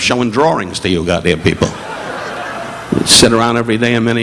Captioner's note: audience laughing